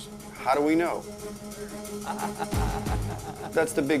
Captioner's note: laughs